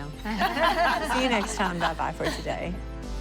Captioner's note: laughter